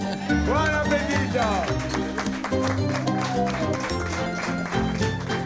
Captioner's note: restaurant applauds